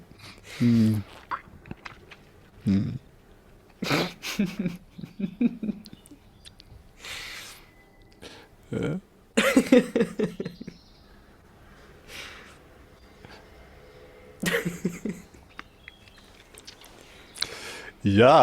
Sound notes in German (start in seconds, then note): 8.7 schnauben; 9.4 gelächter; 14.4 gelächter; 15.0 schnauben